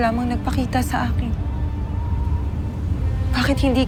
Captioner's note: wind howling